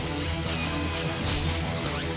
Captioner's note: mechanical whir